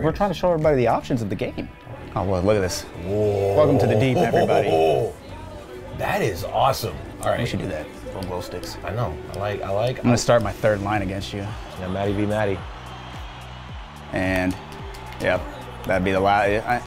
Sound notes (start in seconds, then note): 5.3 laughing; 13.6 fans cheering